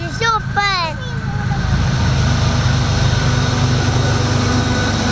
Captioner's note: train engine roars